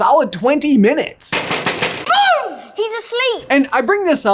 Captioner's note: bangs glass